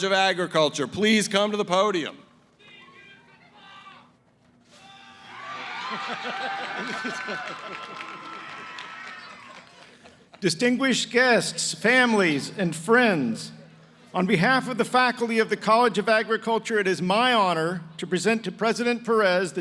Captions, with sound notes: of Agriculture, please come to the podium? [ Cheering ] >> Distinguished guests, families, and friends, on behalf of the faculty of the College of Agriculture, it is my honor to present to President Perez,